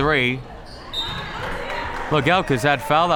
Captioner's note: whistle tweeting